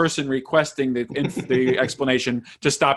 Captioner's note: laughing